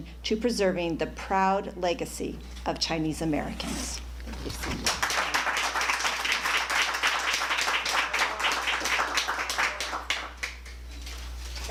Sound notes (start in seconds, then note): 4.6 applause